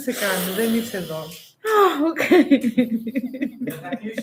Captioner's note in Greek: γέλια